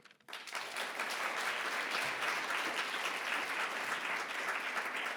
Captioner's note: audience applause